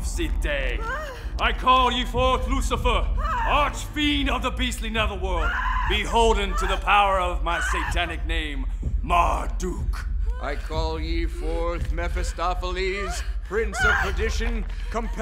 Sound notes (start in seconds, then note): 0.8 pregnant woman wailing